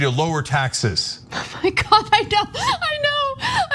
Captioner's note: laugh